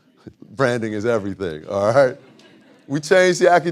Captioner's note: audience laughing; chuckles